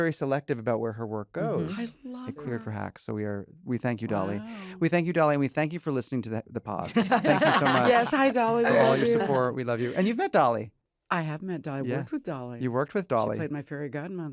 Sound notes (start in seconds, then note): 6.8 laughter